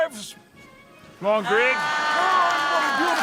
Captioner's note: applause